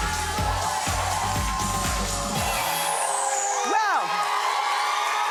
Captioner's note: cheering